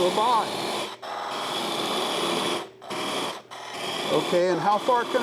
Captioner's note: machine roaring